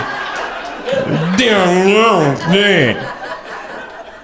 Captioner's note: groans